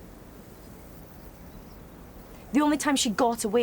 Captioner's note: birds chirping